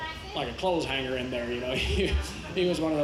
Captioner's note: chuckles